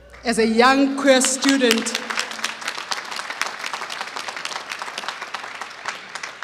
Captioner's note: applause